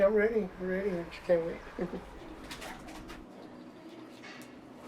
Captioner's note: laughs